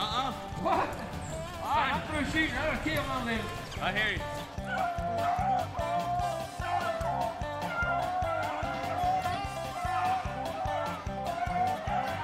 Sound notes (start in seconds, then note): 0.6 muffled yelling; 7.8 dogs barking